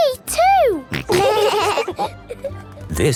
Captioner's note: laughing